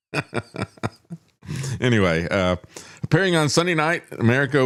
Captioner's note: laughs